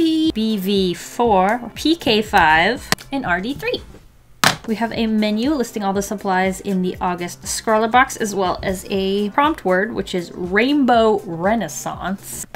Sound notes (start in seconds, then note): 4.4 smack